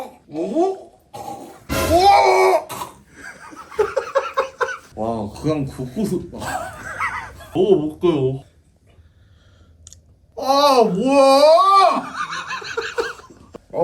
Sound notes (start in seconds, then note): 8.5 chews cautiously